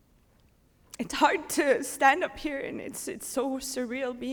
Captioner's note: voice breaking